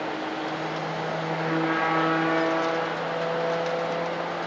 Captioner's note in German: wwrruuuuuuummm